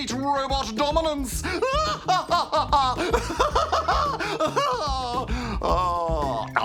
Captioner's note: laughs maniacally